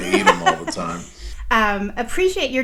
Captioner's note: laughs